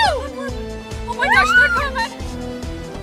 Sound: shrieks

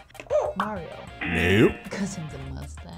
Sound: laughs; buzzer; buzzer barks

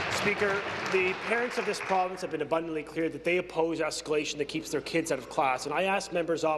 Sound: applause

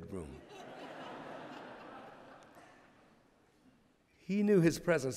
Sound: laughter

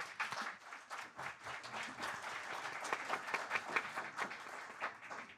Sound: audience applauding

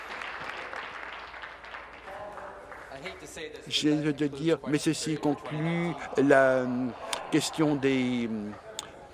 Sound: applause

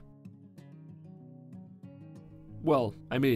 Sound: several seconds of silence

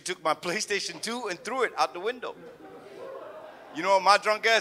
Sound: audience murmurs

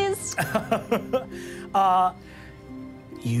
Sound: laughs

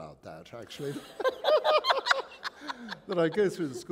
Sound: laughter

